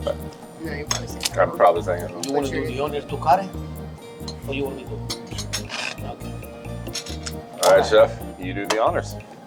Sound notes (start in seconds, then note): 1.4 speaking in Italian